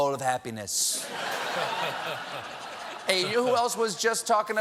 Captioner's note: laughter